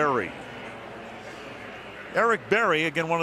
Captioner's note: pa announcement